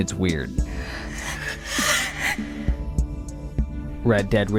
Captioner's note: screams